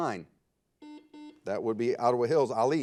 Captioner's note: buzzer